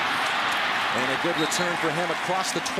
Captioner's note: cheering